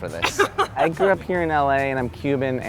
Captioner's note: laughter